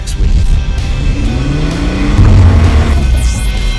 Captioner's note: engine revving